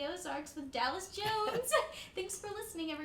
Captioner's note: laughs